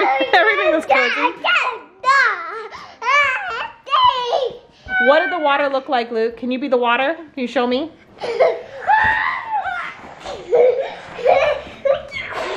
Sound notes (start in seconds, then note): 0.0 laughs; 1.8 shouts; 8.2 children laugh